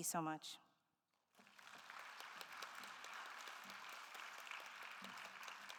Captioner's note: attendees applauding